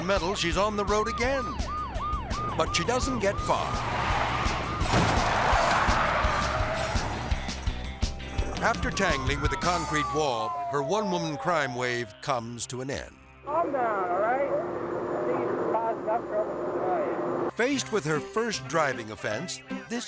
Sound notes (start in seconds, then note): 5.8 tires skidding